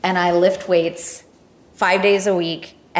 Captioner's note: none